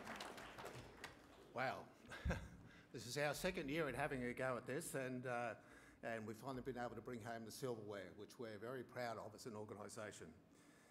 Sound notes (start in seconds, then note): 2.1 chuckles